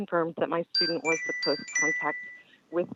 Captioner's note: chime